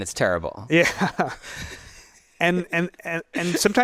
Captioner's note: laughs